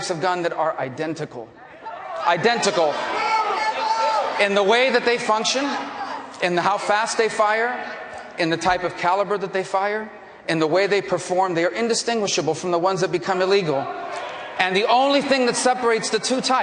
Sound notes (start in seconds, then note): 8.4 audience reacts